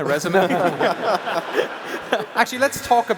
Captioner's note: laughter